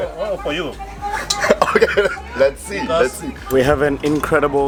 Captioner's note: laughs